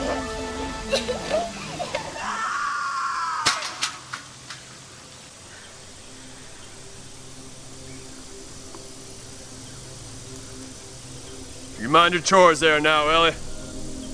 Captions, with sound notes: (Woman screaming) - You mind your chores there now, Ellie.